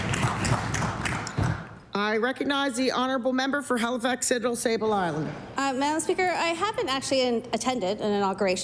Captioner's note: applause